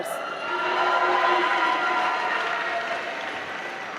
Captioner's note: applause